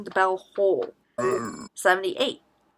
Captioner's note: disgusting frog noise